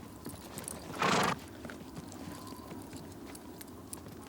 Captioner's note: horse snorts